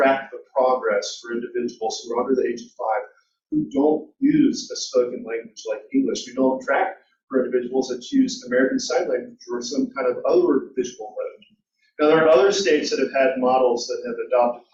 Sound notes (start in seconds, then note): none